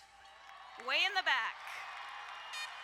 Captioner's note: crowd cheering and applauding